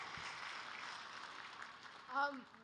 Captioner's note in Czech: Potlesk